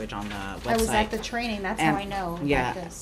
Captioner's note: background talking